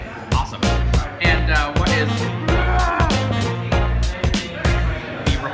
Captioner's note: roaring